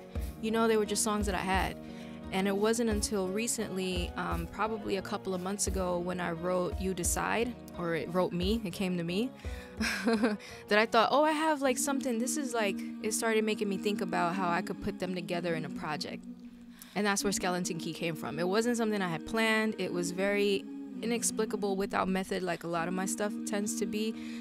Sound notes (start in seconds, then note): 9.8 laughs